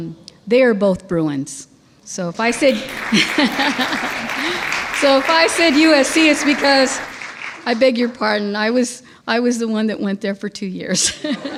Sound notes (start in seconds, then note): 2.4 audience applauds; 11.3 laughing